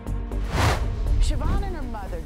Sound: swooshes

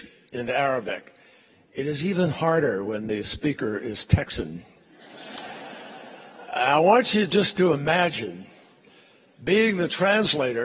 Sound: laughter

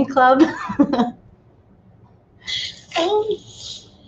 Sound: laughs

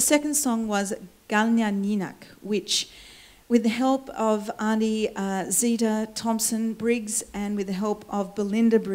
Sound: foreign words

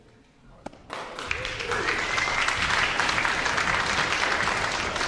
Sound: orchestra applauds

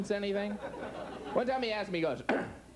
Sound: clears throat

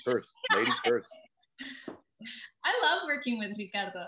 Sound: group laughing

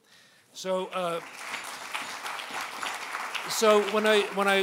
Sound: applause

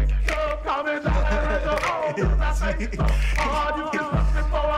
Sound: laughs

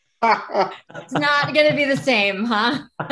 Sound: laughing

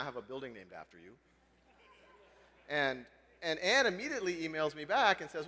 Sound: laugh

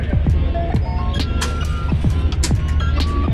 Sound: button beeping; machine clicking

